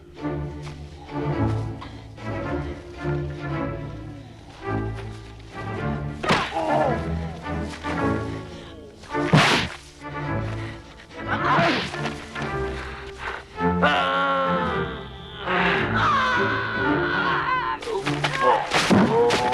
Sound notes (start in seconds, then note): 6.4 Torente groans; 9.3 punch slams; 13.0 Torente moans; 17.1 Hundra yells